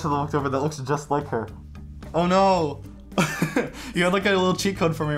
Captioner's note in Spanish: risas